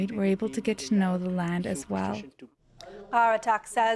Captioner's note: speaking Indigenous language